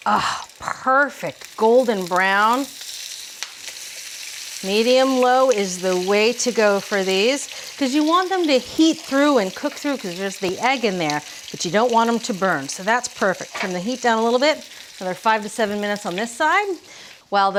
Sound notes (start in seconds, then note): 3.2 patties continue sizzling